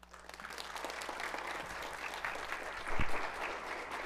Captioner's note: audience applauds